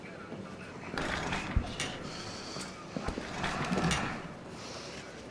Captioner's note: annoyed grumble